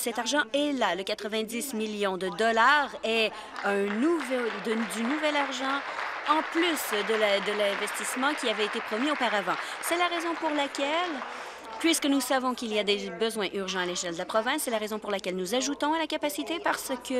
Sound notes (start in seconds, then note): 9.6 applause